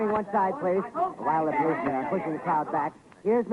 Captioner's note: people squabbling